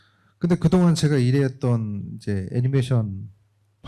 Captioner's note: speaking korean